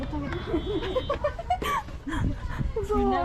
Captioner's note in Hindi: हे हे हे हे।